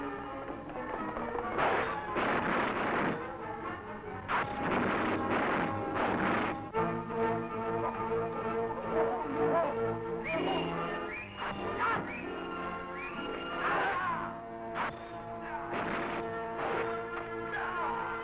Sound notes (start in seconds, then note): 1.5 guns firing; 13.6 men groaning